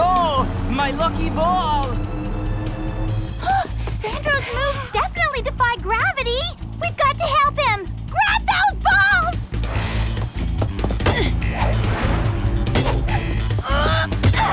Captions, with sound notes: Sandro's moves definitely defy gravity. We've got to help him! Grab those balls! [GRUNTING] Hey!